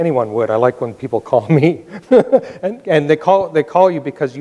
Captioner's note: laughs